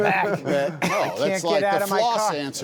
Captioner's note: laughter